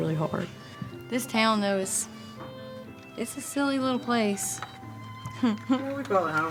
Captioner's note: laughs